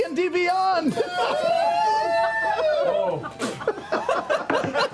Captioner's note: cheering; laughter